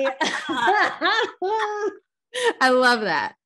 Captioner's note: chuckles